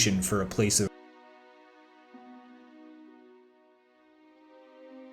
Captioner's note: audio missing